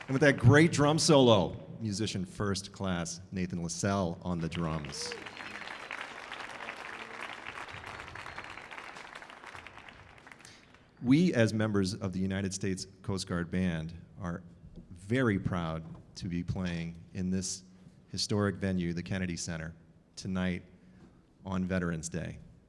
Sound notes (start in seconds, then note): 4.4 audience cheering; 4.4 audience applauding